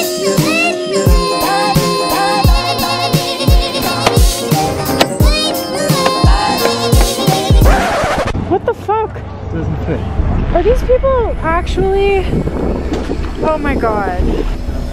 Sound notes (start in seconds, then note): 7.7 record scratching; 14.7 dramatic music